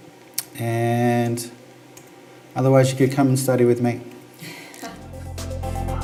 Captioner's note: chuckles